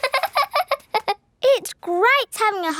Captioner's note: laughing